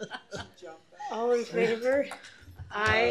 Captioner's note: laughter